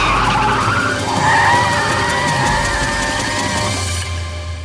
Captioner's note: tires squeal